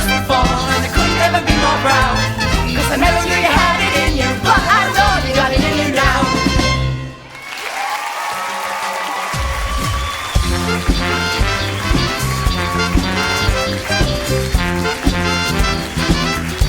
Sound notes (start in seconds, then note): 7.0 audience applause